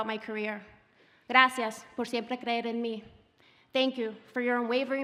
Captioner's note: speaking Spanish